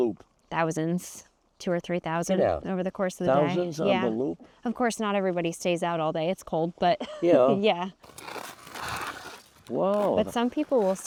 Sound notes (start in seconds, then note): 6.1 chuckling; 8.0 skate blades carving ice